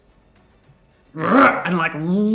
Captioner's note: growls in anger